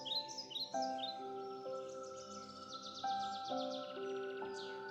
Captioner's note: birds chirping; gentle music